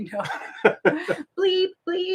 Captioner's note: both laughing